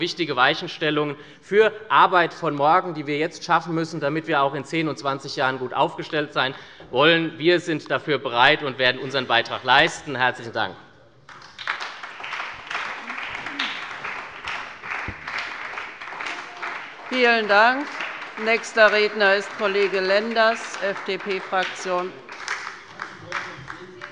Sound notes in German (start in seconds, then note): 12.5 Beifall bei der SPD